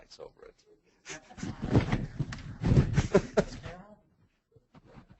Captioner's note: chuckles